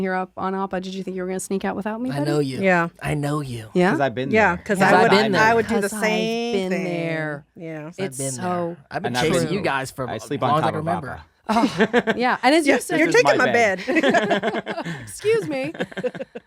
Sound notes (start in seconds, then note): 12.7 laughing